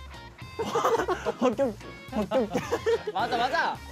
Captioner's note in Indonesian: Tiba-tiba tertawa terbahak-bahak